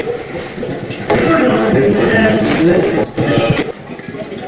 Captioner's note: radio voice